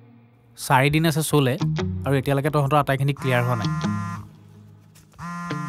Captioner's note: phone rings